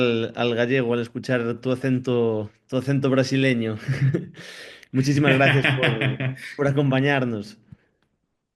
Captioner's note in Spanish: risas